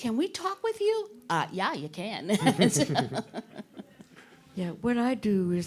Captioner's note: chuckling